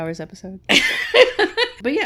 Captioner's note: laughing